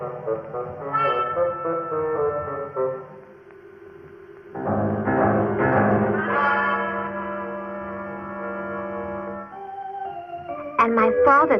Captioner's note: bell